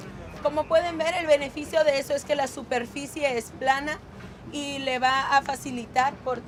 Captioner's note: translator speaks in Spanish